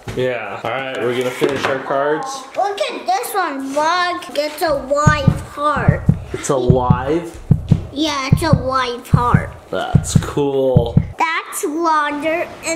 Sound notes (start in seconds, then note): 6.6 heart beats